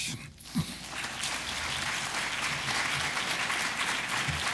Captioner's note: audience applause